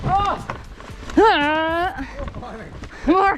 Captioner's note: laughs; groans